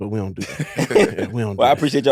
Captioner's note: laughs